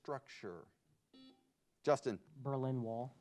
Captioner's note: buzzer beeps